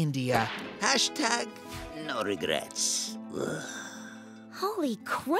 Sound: groans

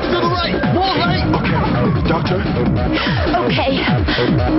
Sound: wheezing

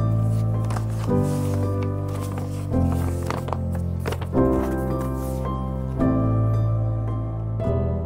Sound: letter opening sounds

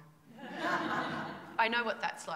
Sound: laughter

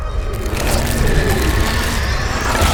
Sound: growl

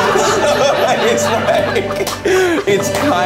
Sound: everybody laughs; laughs

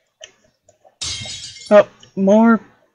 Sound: crash

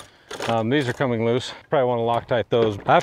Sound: handles clanking

